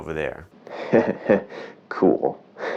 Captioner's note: chuckling